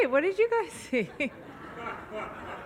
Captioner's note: audience laughs; laughs